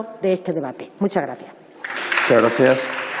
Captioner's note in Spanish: Aplausos